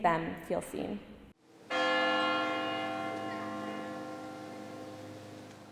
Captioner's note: church bell chiming